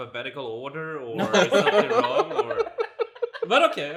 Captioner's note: laughs